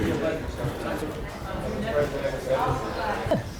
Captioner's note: office chatter